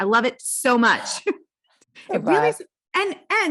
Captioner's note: laughs